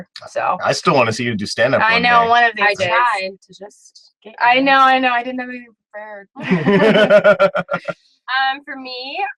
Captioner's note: laughs